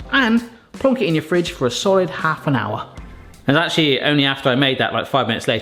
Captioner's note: none